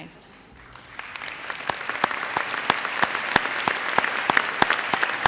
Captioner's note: audience applauds